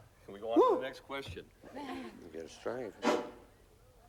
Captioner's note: microphone makes noise